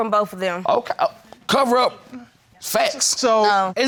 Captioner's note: stammering